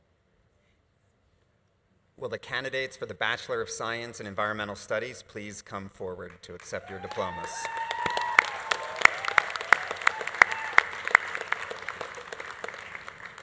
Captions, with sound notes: - Will the candidates for the Bachelor of Science in Environmental Studies, please come forward to accept your diplomas. (audience applauding) (audience cheering)